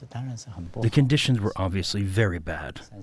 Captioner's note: through translator